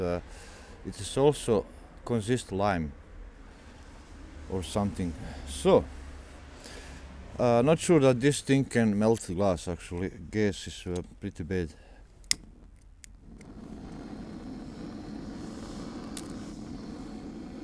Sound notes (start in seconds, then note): 12.7 sound of lighter; 13.0 humming sound of gas torch